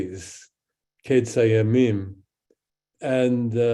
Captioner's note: speaks in Hebrew